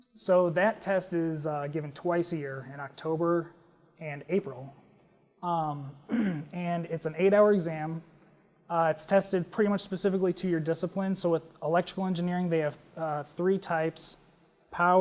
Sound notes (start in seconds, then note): 6.0 cough